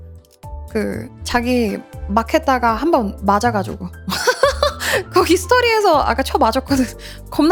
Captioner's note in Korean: 웃음